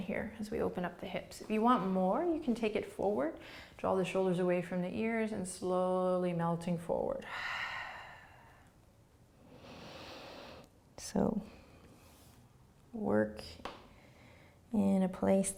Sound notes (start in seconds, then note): 7.2 exhaling; 9.4 inhaling